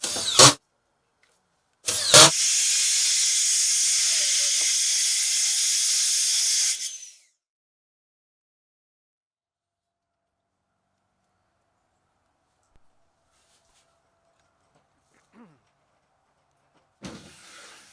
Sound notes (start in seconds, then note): 1.8 saw cutting